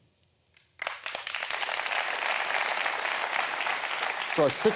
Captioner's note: applause